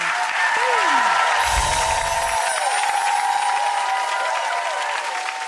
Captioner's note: audience cheering